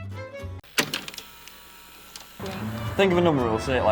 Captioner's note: projector clicking